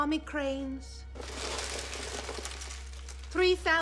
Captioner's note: paper shuffling